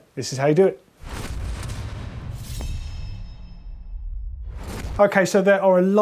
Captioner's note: dramatic swooshing